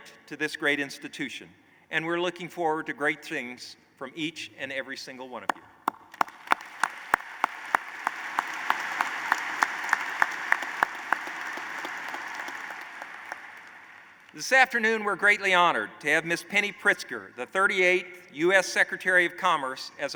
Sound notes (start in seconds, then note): 5.8 applause